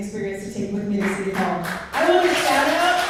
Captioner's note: clapping